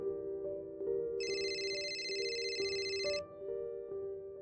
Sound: cellphone ringing

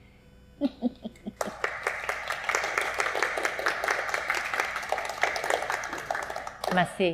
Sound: clapping

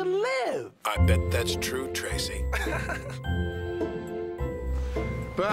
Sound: chuckles

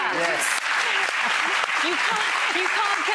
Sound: applause

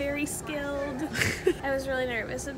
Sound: snickering

